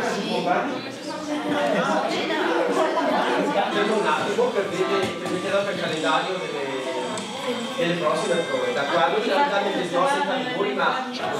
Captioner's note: indistinct chatter